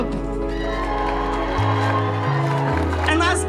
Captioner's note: audience applauds